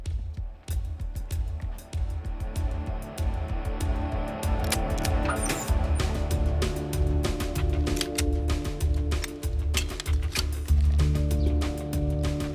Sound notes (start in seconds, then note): 4.4 gun clicking